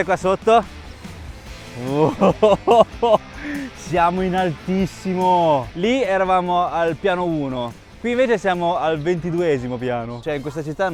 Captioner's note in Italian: risate